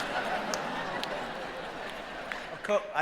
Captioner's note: laughing